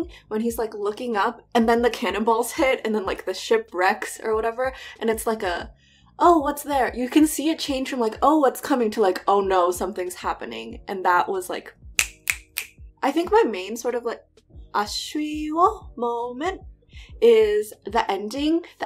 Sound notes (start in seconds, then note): 12.0 snaps